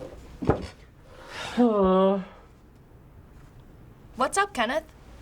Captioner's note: sighs